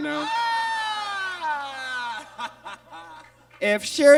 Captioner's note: Monet exclaims